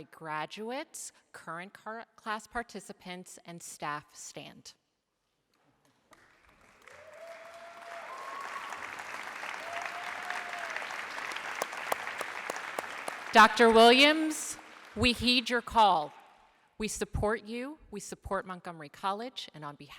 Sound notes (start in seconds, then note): 6.0 applause